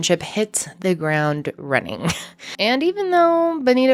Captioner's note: laughing